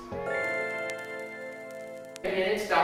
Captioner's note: bell chiming